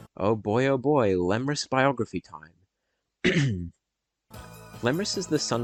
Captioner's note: ahem